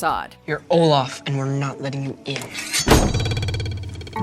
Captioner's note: knife sharpening